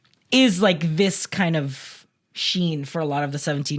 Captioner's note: none